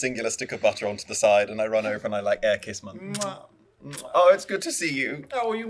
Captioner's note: kisses